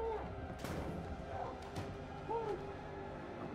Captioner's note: muffled yelling